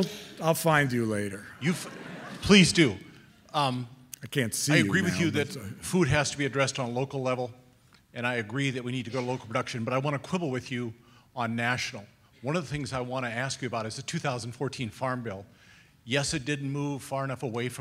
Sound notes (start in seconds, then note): 2.6 voiceover